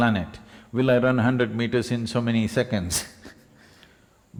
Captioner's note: laughs